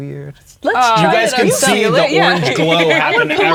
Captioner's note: talking excitedly